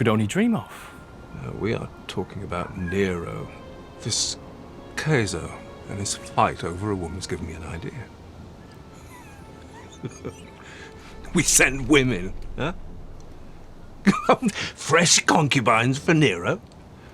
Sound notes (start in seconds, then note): 8.8 laughs; 14.0 laughs